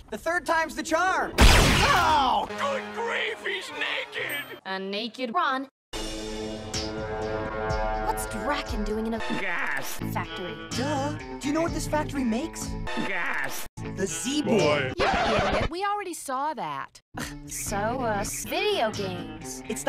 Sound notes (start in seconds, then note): 15.0 record scratch